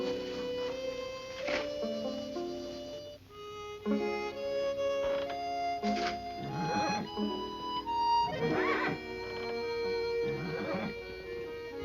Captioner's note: horse neighing